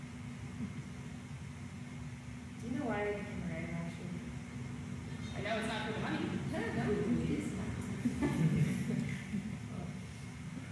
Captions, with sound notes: Do you know why I became a writer, Ashley? - I know it’s not for the money. - (dry chuckle) Noooo, it is not. (Audience laughter)